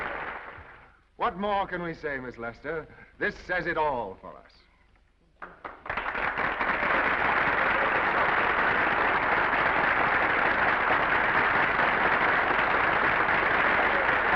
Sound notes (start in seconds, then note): 5.4 audience applauding; 6.0 audience cheering